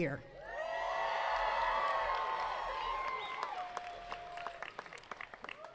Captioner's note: attendees cheering and clapping